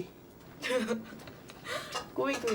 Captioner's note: laughs